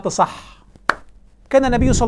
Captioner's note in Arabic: تصفيق